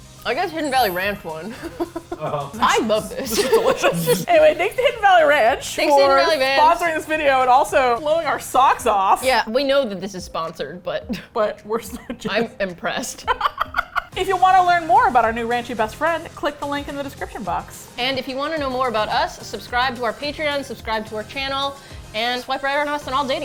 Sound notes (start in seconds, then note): 2.6 laughs; 3.1 all laugh; 13.1 laughs